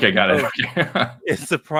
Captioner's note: laughs